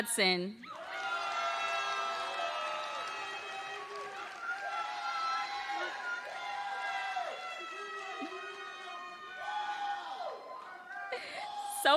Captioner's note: applause